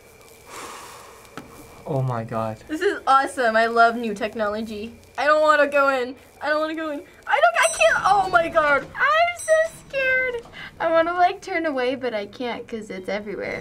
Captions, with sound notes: (exhales) Oh my god. This is awesome. I love new technology. I don't wanna go in. I don't wanna go in. - I don't--I can't! - (elevator dings) Oh my god. - I'm so scared. - (elevator dings) I wanna turn away but I can't 'cause it's everywhere.